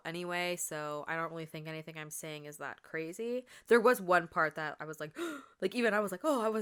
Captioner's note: gasp